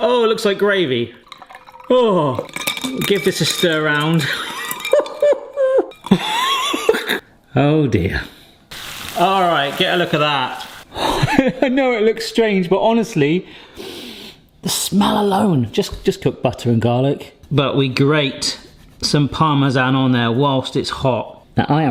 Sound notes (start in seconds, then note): 4.3 laughs nervously; 8.7 pan sizzling; 14.0 sniffs